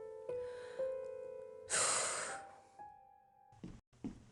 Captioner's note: sigh